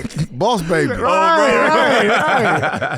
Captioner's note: laughing